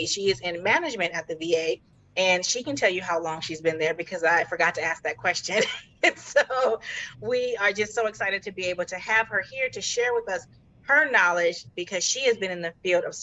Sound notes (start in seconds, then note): 6.0 chuckling